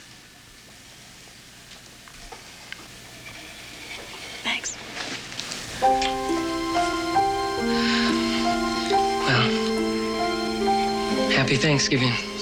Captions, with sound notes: Thanks. (KISSES) (SIGHS) Well... Happy Thanksgiving, City Mouse.